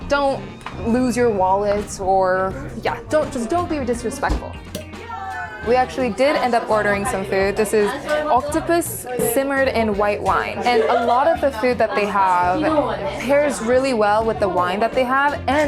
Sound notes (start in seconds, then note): 4.6 cap popping